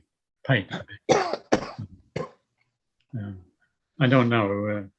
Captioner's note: coughing